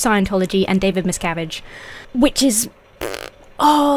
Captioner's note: blows raspberry